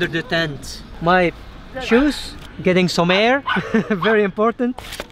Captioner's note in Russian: смеётся